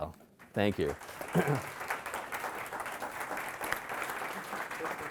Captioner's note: audience applauding